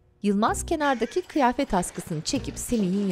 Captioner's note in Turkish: Gülme sesi